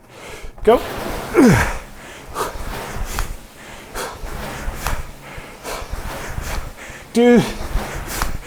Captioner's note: grunts